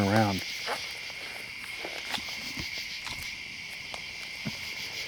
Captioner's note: insects chirping